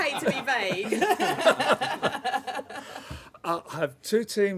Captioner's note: laughter